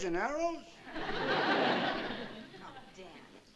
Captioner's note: laughter